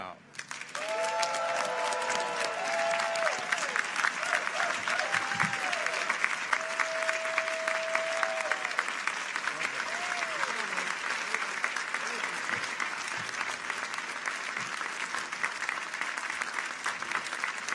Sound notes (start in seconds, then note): 0.6 audience cheers; 0.7 audience applauds